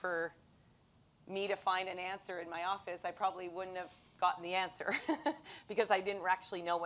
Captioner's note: laughs